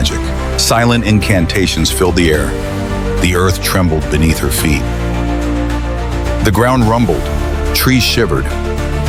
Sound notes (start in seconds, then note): 0.9 chanting, her voice a low, urgent murmur